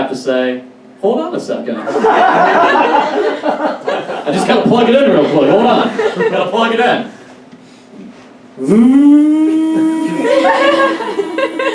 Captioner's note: audience Laughs; excellent inflating air mattress sound effect